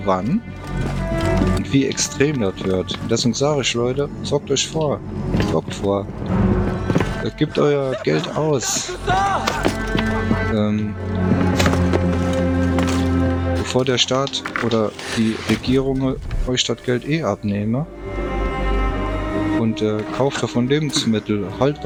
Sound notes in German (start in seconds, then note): 11.3 gelächter